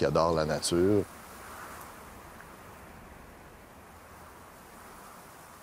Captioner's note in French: sifflement du vent